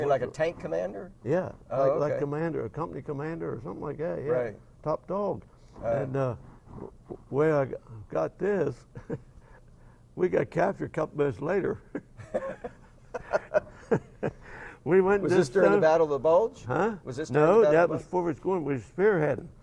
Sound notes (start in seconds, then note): 9.3 laugh; 11.9 both laugh